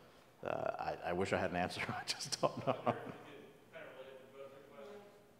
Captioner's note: laugh